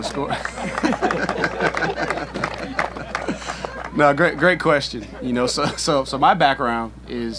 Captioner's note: laughing